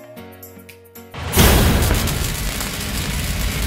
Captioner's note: sparks